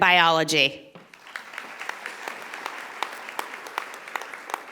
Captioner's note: audience applauding